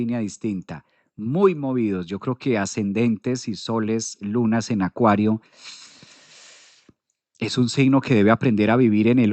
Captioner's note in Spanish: resoplido